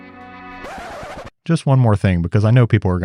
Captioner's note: record scratching